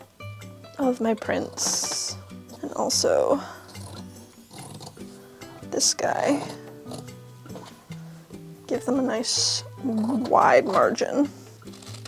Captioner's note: sound of scissors cutting